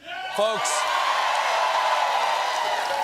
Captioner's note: cheers and applause